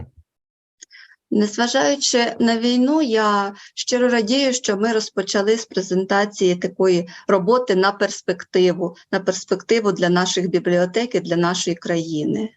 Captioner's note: foreign Language Spoken